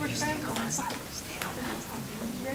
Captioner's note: crowd talking indistinctly